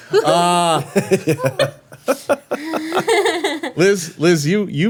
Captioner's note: everyone laughing